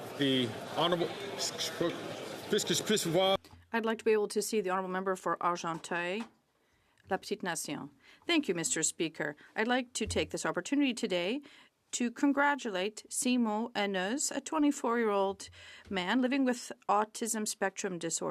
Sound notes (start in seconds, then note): 6.4 speaking French